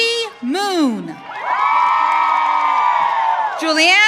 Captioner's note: audience cheering